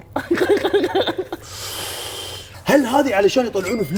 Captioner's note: laughs 😂